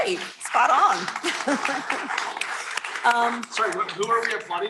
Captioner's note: applause